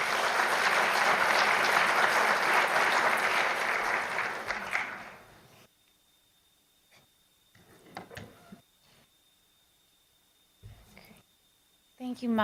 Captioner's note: applause